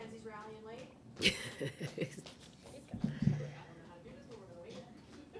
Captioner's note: laughing